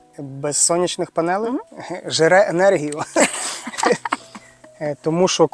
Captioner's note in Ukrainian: сміх